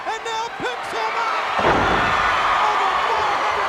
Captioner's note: crowd cheers